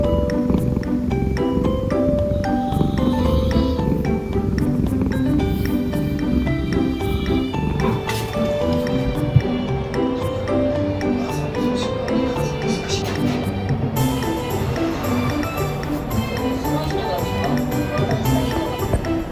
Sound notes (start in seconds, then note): 11.3 laughs